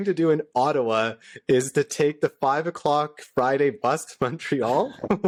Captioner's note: laughter